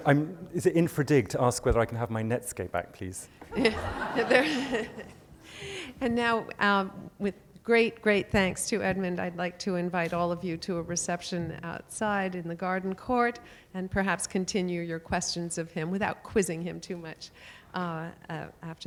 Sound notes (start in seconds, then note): 0.7 voiceover; 3.5 laughter; 7.3 voiceover